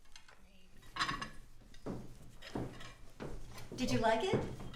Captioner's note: plates clanging